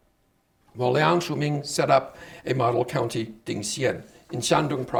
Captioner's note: speaking Chinese